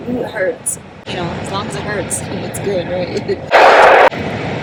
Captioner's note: laughs